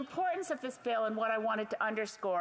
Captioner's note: speaking FRENCH